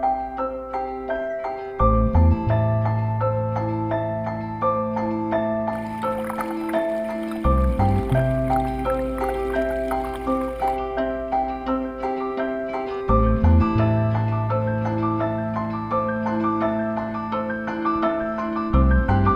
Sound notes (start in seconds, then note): 5.7 water Running; 10.1 thoughtful Music